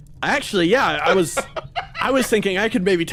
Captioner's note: laugh